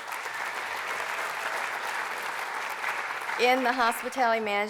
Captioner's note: applause